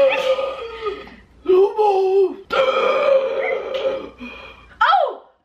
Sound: gasps; gasps

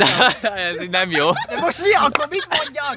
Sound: laughs

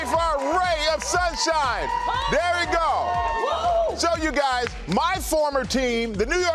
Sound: crowd reacting

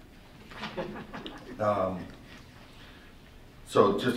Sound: laughter

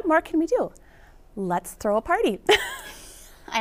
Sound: chuckles

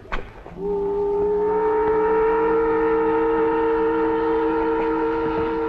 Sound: boat whistles

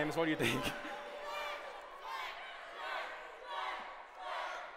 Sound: chanting

